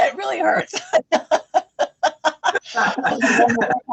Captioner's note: laughing